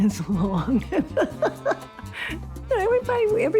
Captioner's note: laughter